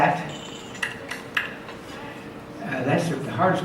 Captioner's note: clicks tongue